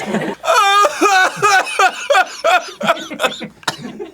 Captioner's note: cry-coughing